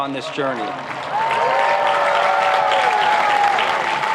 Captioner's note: applauding